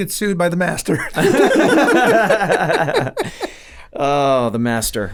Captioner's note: laughing